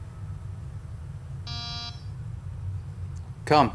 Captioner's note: door buzz